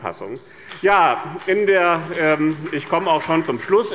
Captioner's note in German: Beifall bei der CDU und dem BÜNDNIS 90/DIE GRÜNEN